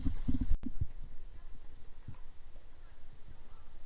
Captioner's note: distant chatter